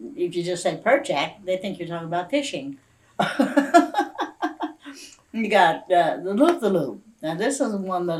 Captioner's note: laughs